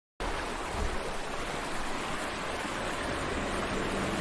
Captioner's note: water gurgling